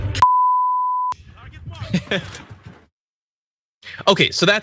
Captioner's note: laugh